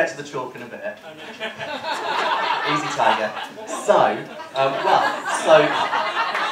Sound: cheering

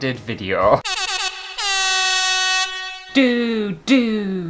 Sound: air horn!!

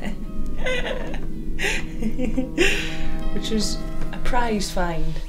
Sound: laughs

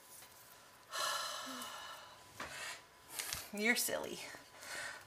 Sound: sighs

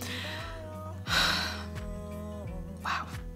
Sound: sighs

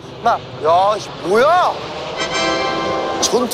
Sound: the sound of combat planes

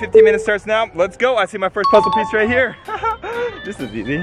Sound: chimes

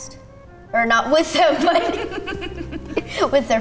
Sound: laughing

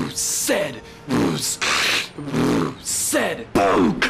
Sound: beatboxing

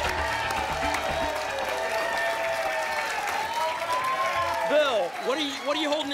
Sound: applause and cheering cont

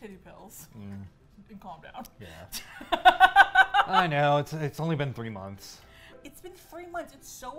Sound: laughs

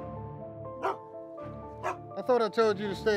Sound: Willamina barking

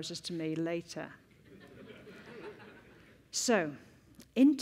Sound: laughter

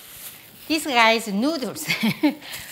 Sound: laughs

